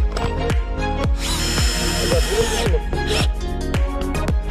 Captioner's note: drilling noise